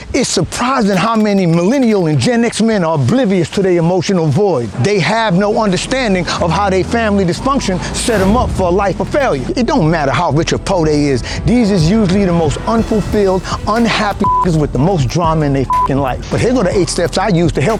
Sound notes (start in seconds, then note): 14.2 beep